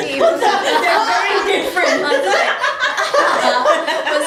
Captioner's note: laughter